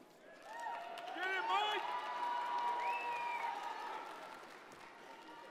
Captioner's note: audience cheers and applauds